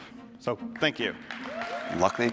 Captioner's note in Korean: 박수 소리